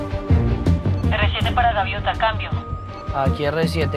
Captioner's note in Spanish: Judy por la radio